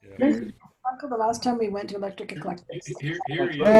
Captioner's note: whimpers